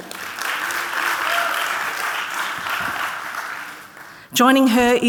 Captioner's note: audience clapping